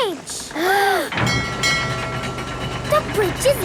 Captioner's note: kids gasping; bell dinging